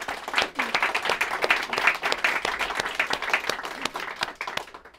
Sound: applause

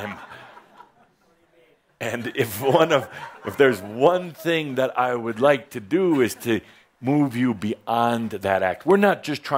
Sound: laughter

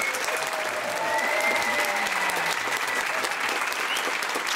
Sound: guests clap and cheer

